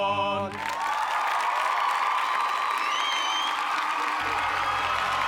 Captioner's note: cheers and applause